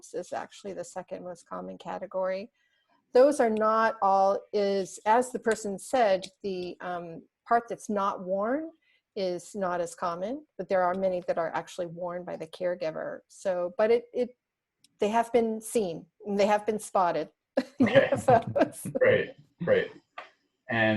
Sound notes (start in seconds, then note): 17.8 laughs